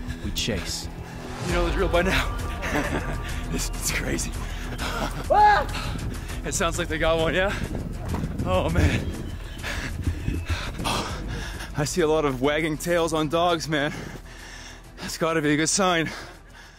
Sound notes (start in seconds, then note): 2.4 laughs; 8.7 panting heavily